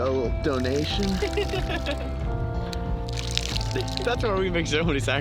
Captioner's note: laughs